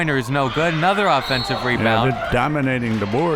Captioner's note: whistle